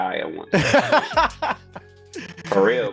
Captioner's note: laughter